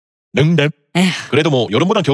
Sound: sigh

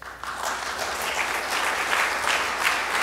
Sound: applause

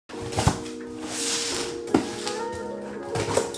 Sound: box rustles

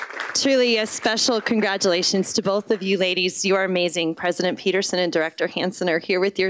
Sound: applause

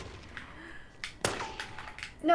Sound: gunshot

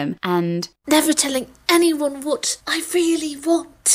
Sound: none

